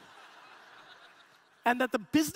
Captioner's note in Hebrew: הקהל צוחק